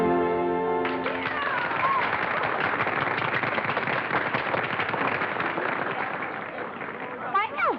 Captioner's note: applause